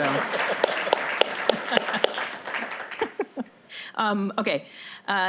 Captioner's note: applause